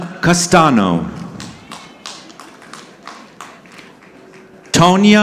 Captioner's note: audience clapping